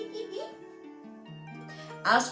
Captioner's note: laughing